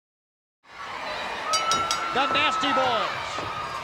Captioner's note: bell dings